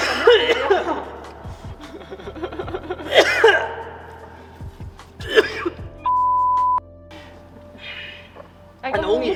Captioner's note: more laughing and wheezing